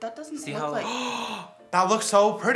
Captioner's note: gasps